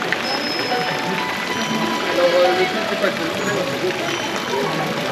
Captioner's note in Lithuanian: Plojimai